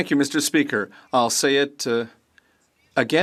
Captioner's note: speaking French